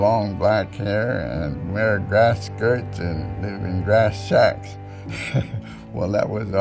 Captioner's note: chuckles